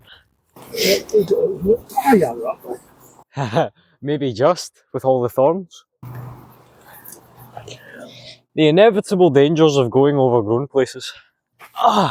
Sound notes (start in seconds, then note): 3.3 laughter